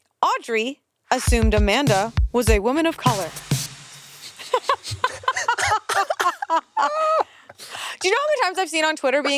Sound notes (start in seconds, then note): 4.3 they laugh